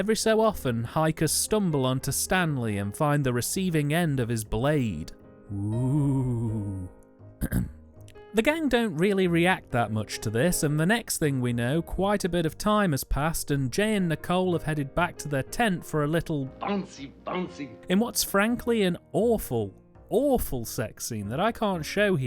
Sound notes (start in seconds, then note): 7.4 ahem